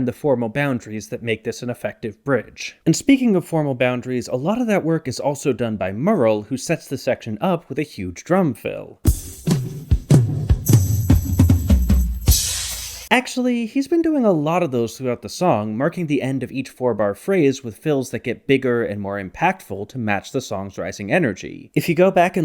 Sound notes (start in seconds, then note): 10.5 bang